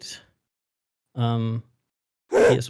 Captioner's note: game grunting noises